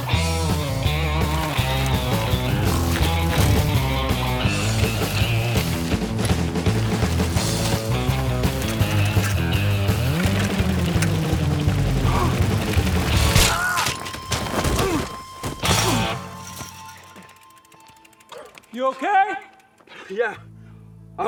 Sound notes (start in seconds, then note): 0.1 energetic guitar music continues; 9.3 energetic guitar music continues; 11.4 biker gasps; 13.9 biker shouts